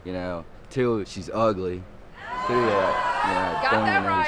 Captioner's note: audience exclaim